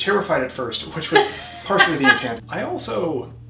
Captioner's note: chuckles; laughs